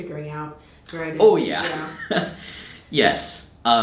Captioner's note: chuckles